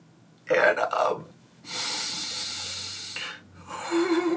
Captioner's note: inhales